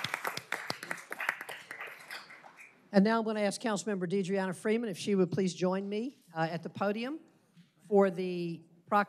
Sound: applause

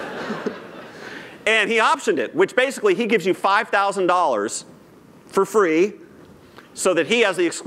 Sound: laughter

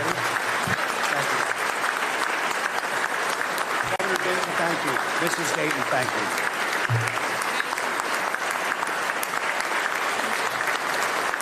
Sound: applause

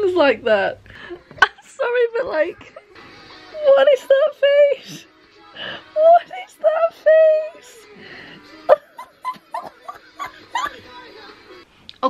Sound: laughing

